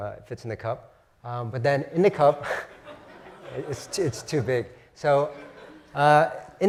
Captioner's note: laugh